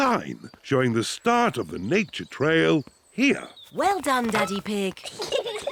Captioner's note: peppa and george giggle